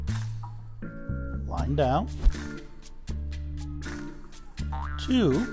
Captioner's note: air whooshing; spring boings